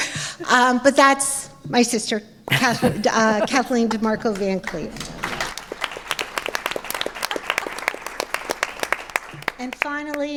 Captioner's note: applause